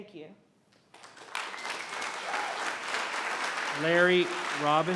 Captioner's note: applauding